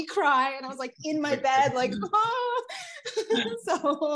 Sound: sobbing

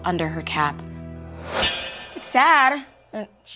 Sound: graphic clanging

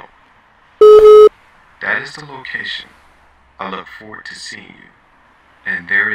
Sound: phone beeps

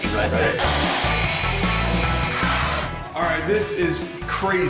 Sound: whirring

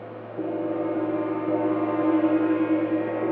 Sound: gong rings

